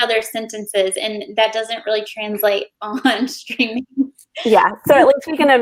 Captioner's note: laughs